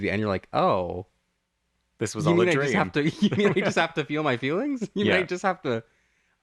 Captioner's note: laugh